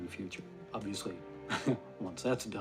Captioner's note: laughs